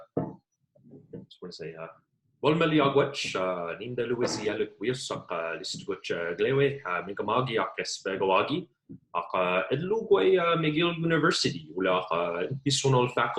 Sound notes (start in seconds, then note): 2.9 speaking in indigenous language